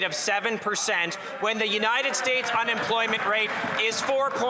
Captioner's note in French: voix de l'interprète